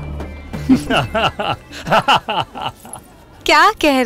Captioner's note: Both laughing